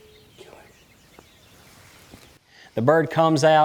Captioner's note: whispering